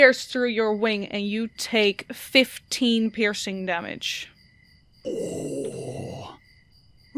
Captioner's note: groans